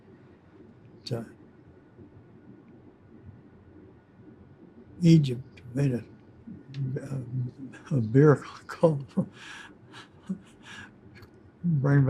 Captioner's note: laughing